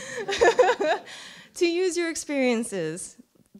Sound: laughter

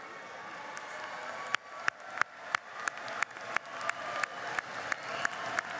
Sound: cheering and applause

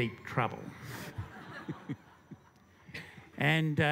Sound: laughter

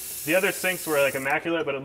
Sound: water trickling

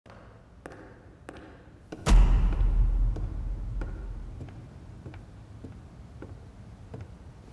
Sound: footsteps approaching piano

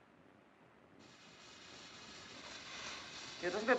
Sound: machine hissing

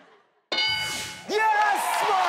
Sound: board dings

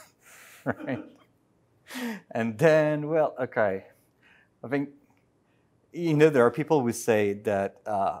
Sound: laughter

